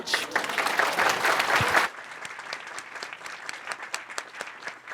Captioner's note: audience applauds